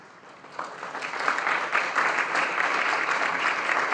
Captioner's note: audience applauding